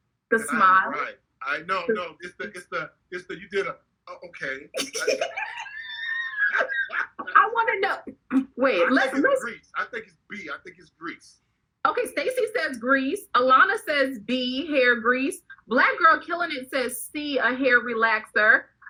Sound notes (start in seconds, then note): 4.1 laughing